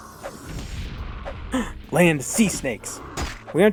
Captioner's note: gasp